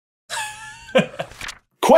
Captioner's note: laughter